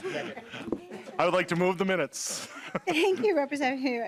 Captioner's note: laughter